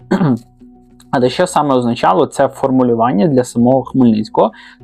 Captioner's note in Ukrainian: прочищення горла